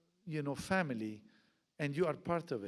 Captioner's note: none